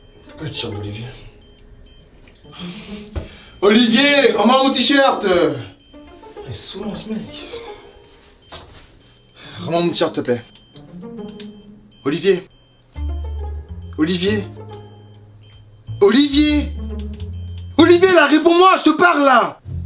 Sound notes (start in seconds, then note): 2.5 sighs